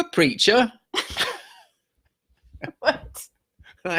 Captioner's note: both laughing